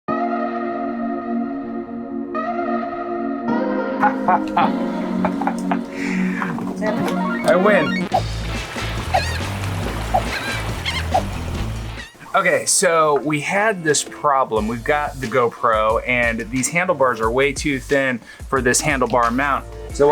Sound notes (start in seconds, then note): 0.2 techno pop music; 4.0 laughing; 8.5 water rushing; 9.9 birds cawing